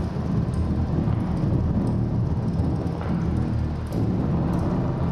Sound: humming of projector

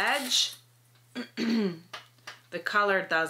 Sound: clears throat

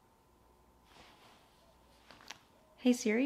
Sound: fabric shuffling

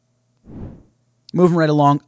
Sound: swooshes

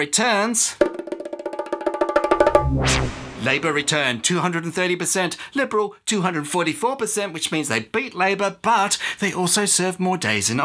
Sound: tapping

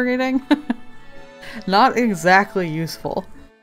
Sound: laughs

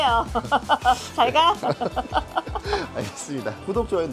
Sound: laughter

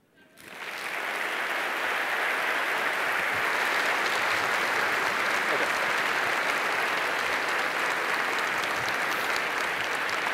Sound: applause

